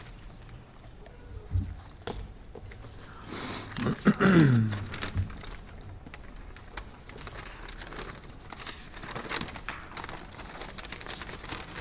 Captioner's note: laughter